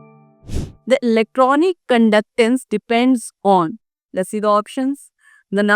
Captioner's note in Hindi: नाक से की जाने वाली आवाज़